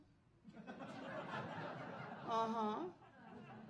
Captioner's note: audience laughing